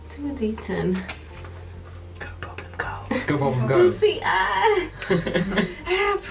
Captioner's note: whispered